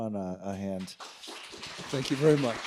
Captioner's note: audience clapping